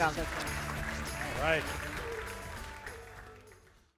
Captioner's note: attendees clapping